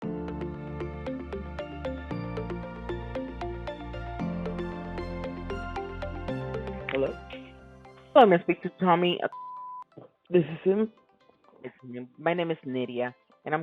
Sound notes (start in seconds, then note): 0.0 bright electronic music; 9.3 beep